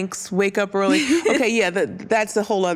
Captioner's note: giggles